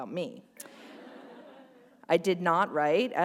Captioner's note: laughter